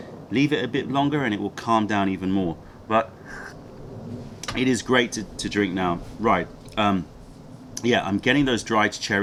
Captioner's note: sips tea